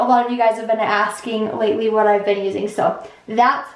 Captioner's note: none